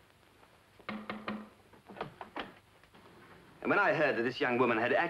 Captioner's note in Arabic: طرق الباب